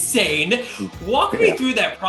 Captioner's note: laughs